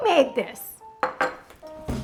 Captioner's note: bowl clanking; upbeat music